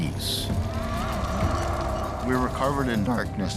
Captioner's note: creature howling